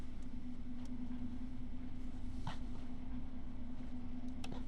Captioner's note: mechanical engine ambience